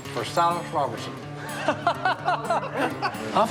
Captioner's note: laughter